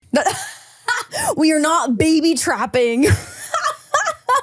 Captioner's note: laughs